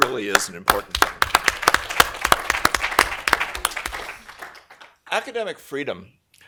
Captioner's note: applause